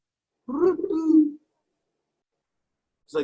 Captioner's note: croak; imitates croak